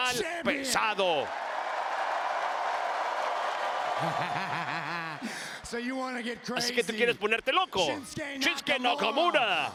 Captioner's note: applause